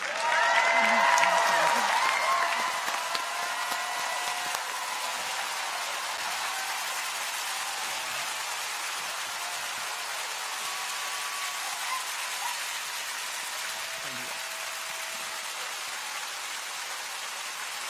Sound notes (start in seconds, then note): 0.2 audience applauds; 0.2 people cheer; 5.6 clappers clacking; 5.6 people continue to cheer